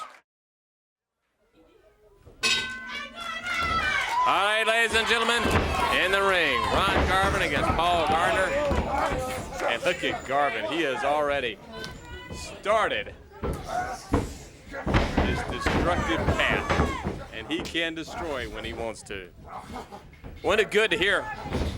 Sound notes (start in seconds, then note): 2.4 bell ringing; 3.7 crowd chatter; 13.0 crowd chatter